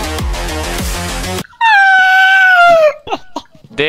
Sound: chuckles

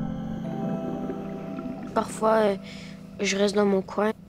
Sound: speaking in French

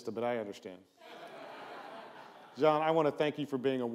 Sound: audience laughs

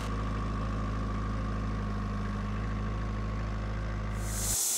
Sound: forklift engine roaring; saw revving

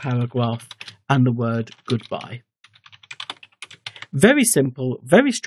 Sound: typing

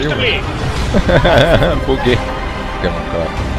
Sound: laughing

